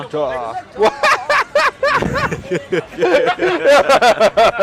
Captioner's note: all laughing